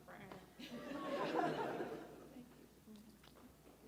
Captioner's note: audience laughs